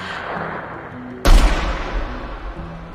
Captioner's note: single distant gunshot